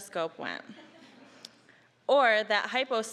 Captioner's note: audience chuckling